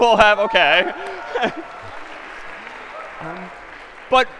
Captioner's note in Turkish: TEzahüratlar ve Alkışlar